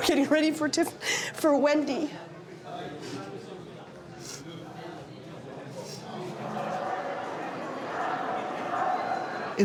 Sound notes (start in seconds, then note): 4.6 sniffles